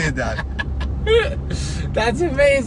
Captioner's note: laughs loudly